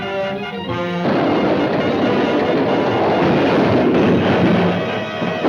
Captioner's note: train chugging